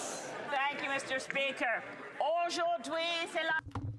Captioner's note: speaking French